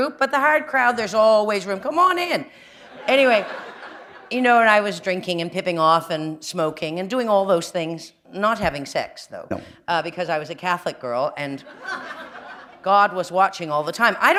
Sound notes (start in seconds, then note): 2.9 laughter; 11.6 laughter